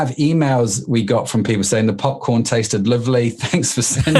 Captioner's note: laughs